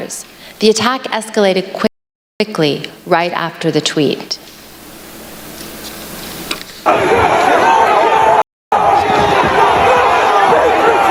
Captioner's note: shouting